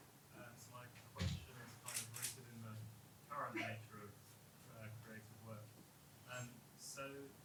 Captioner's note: camera shutters